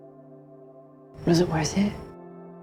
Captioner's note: voiceover